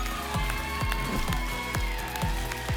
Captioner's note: applause and cheering cont